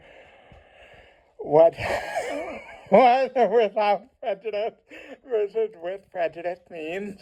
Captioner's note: laughs